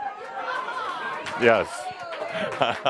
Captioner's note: Adamus chuckles